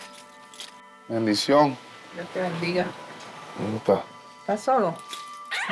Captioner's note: speaking Spanish